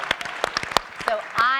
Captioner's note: audience and panelists applauding